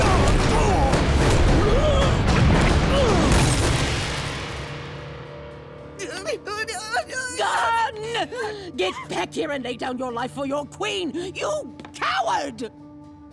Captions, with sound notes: [groaning] [whimpering] Gun! Get in back here and lay down your life for your queen, you coward!